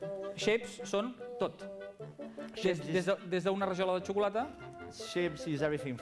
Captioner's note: non-english speech